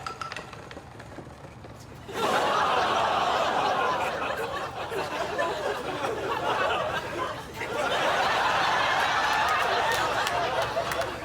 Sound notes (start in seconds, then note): 2.2 all exclaim; 4.2 laughter